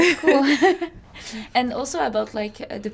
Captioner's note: laughing